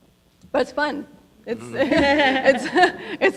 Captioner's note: audience laughing